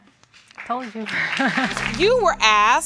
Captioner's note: laughs